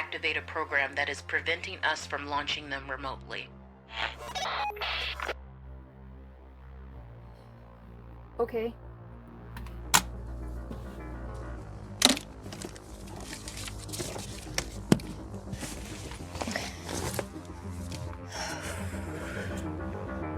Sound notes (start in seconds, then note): 3.9 radio bleep; 12.0 papers rustling; 18.2 inhales deeply